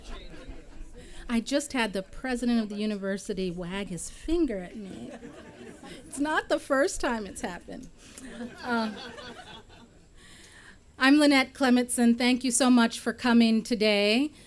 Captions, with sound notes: >> I just had the President of the University wag his finger at me [laughter]. It's not the first time it's happened [laughter]. I'm Lynette Clemetson, thank you so much for coming today.